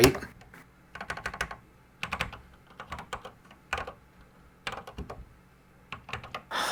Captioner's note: typing on a Commodore 64 keyboard